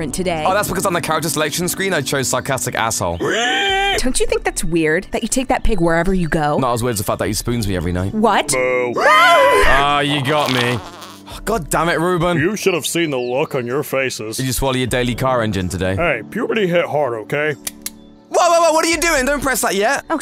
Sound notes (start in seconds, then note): 3.2 pig Squeals; 8.9 all Screaming; 17.5 button clicks